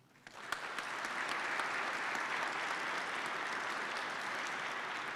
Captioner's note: participants clap